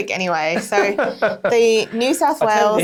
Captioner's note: chuckling